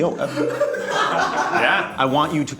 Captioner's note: laughing